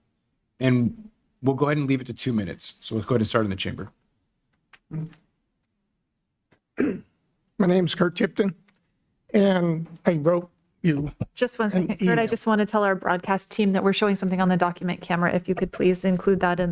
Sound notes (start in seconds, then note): 6.7 clears throat